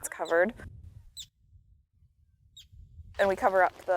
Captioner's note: birds chirping